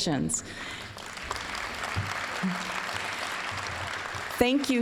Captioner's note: applause